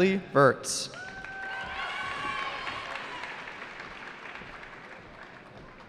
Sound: cheering

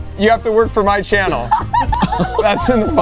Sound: laughing

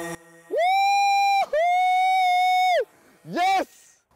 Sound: shout of joy

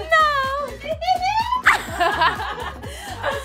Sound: laughter

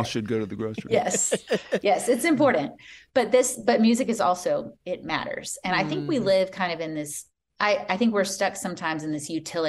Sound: laughter

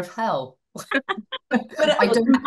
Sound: everybody laughing

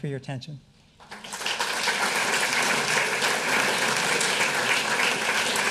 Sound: audience applauding

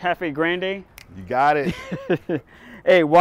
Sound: snaps fingers; laughing

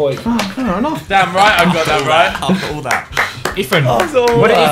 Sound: students murmur

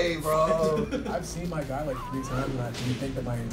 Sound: laugh

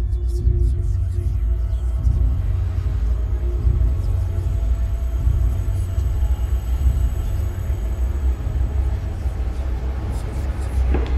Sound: ominous whispers

